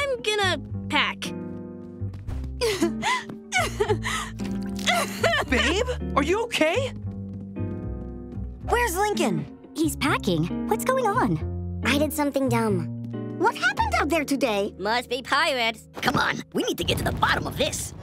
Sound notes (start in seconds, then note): 2.5 crying